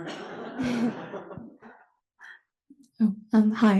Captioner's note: laugh